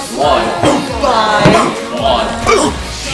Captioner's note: ugh!; ugh!